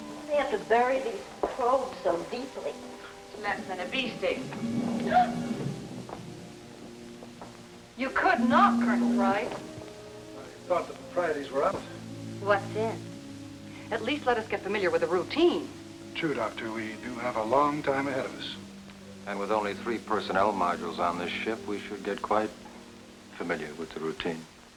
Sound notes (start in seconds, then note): 5.0 Katie gasps